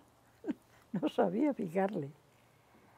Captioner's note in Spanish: ríe